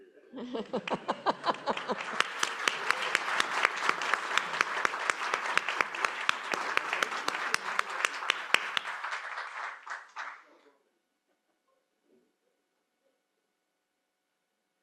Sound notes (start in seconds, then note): 0.1 laughter; 0.6 applause